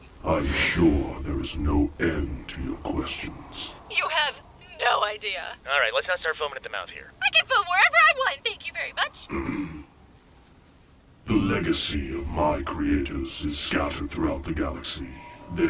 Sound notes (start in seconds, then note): 9.3 Santa clears his throat